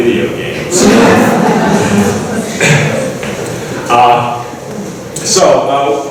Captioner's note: ? laughing ?